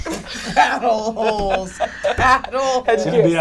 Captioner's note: laughing